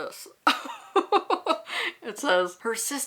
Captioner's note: laughs